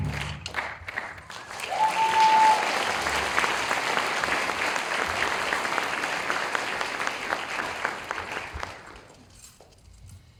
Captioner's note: cheers and applause